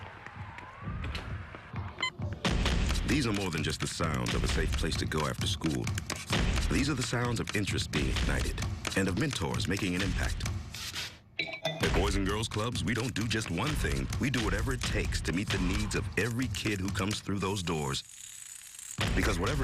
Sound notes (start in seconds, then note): 1.6 street sounds; 2.3 stomping